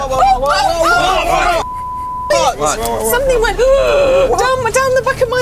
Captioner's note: Yvette screams